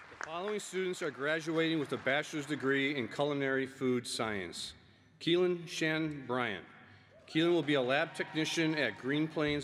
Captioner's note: applause